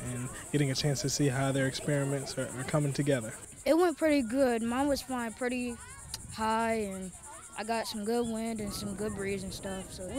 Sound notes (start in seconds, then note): none